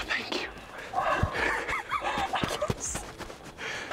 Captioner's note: laughing excitedly